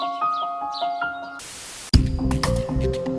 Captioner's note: static sound